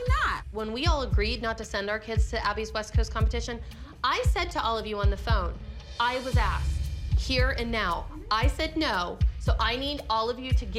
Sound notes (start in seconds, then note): none